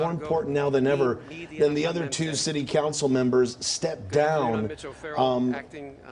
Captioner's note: speaking in native tongue